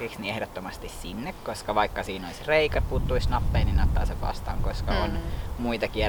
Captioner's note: wind goes whoosh